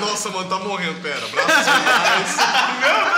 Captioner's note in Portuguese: Risadas